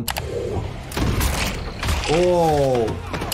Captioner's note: gunshot